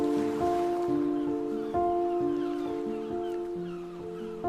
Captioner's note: seabirds squawking